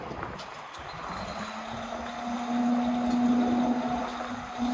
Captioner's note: coach engine revving